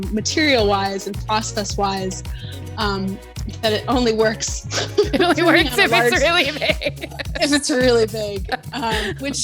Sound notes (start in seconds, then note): 4.7 both laughing